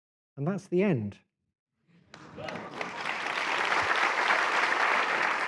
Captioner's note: applause